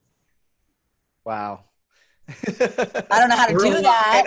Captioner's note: laughs